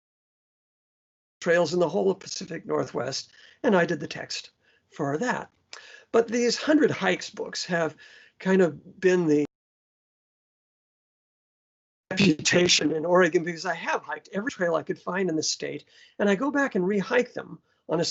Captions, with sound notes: trails in the whole of pacific northwest and i did the text for that but these hundred hikes books have kind of been the... [sound cuts out] ... reputation in oregon because i have hiked every trail i could find in the state and i go back and re-hike them on a